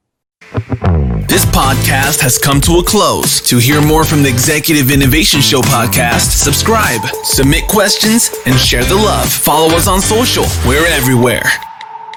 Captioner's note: automated Voiceover